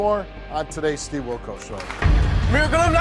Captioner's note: audience claps